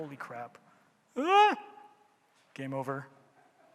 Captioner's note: groaning